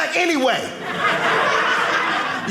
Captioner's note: audience laughing